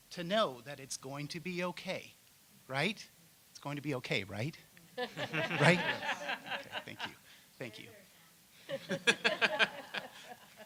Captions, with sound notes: SO COME ALONGSIDE, AND WE'RE GOING TO LOOK TO YOU, TO KNOW IT'S GOING TO BE OKAY? RIGHT? IT'S GOING TO BE OKAY, RIGHT? [ LAUGHTER ] >> RIGHT? >> THANK